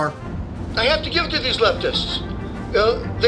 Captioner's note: radio